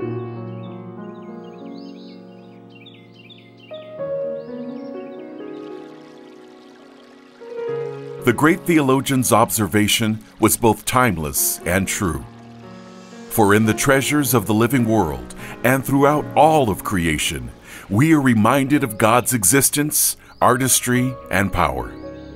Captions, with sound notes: (birds chirping) (water babbles) The great theologian's observation was both timeless and true. For in the treasures of the living world and throughout all of creation, we are reminded of God's existence, artistry, and power.